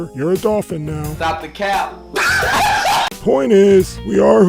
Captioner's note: laughter